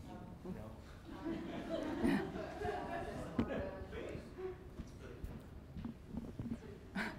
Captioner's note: chatter; laughter